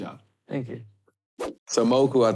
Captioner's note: air whooshing